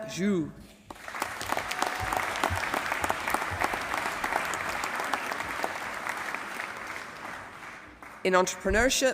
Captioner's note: applause